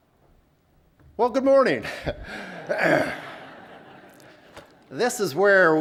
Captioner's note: laughter